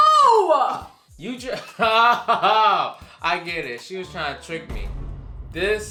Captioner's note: laughs